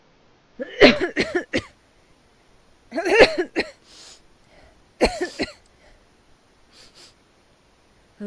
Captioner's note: coughing